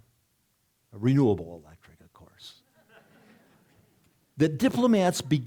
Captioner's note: audience laughing